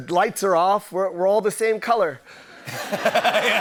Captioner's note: laughter